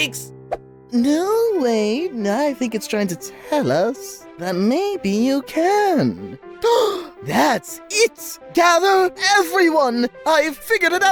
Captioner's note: gasp